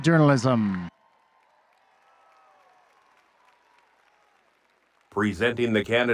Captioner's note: audience cheering and applauding